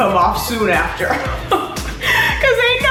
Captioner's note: laughing